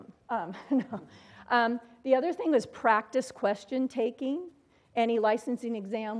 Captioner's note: laugh